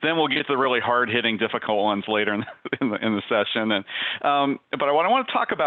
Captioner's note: giggles